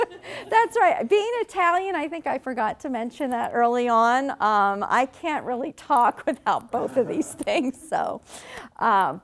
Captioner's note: laughing; laughing